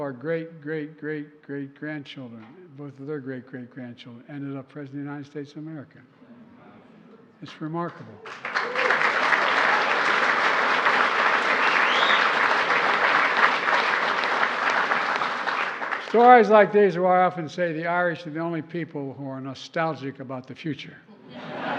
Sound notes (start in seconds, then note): 13.1 applause